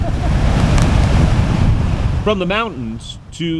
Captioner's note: laughing; waves crashing